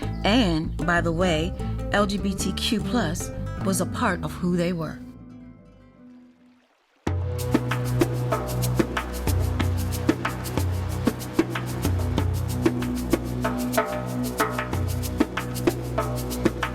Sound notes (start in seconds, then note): 6.0 water splashing; 7.1 dramatic music